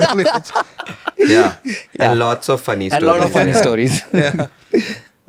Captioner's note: laughs; laughs